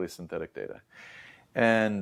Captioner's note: inhales